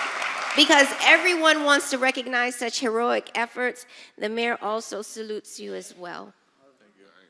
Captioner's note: applause